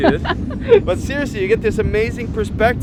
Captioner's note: laughing